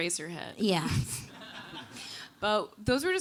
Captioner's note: audience laughing